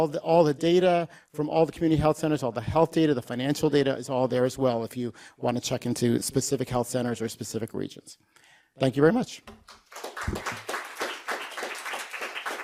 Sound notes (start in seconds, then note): 9.6 audience applause